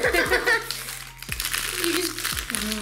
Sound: laughing

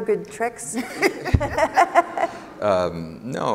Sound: laughing

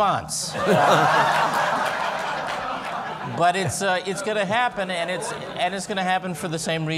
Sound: laughter

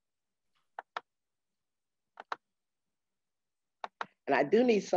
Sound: keyboard clicking

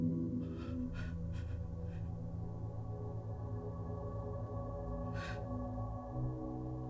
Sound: sobbing

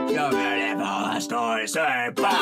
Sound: silly noises

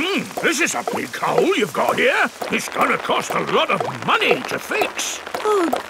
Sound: none

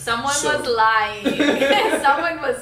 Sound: laughing

